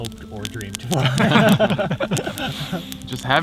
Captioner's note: all laugh